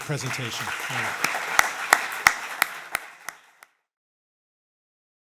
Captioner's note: audience applauding